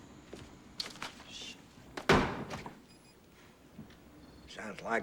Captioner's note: slams Desk